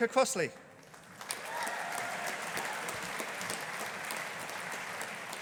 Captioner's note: audience applauding